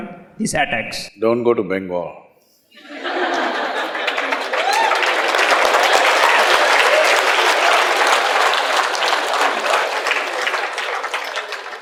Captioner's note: laughter/Applause/Cheers